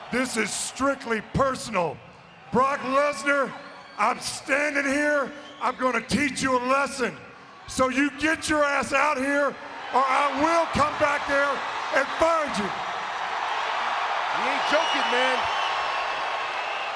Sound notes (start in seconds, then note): 13.1 audience cheers